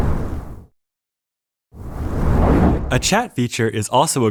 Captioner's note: whoosh